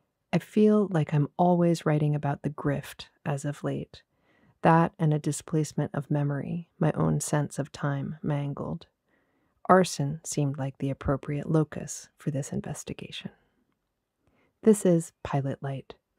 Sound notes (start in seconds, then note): none